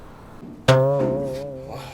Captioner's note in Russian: Звук сломанной пружины